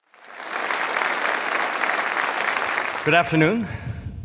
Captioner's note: audience applauding